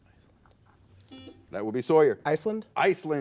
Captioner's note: buzzer